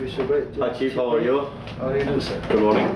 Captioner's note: non-english speech